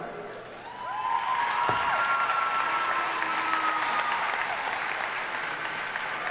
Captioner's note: audience cheering and applauding